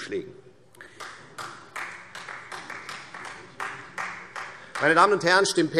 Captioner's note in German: Beifall Freie Demokraten